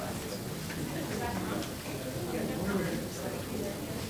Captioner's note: crowd talking indistinctly